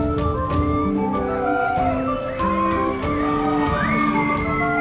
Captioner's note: medievil music plays; screams; medievil music plays